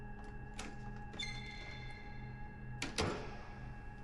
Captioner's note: door slams